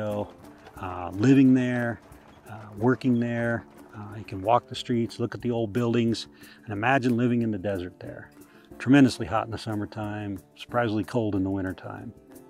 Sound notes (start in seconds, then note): 0.0 hooves on gravel